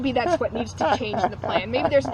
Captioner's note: laughs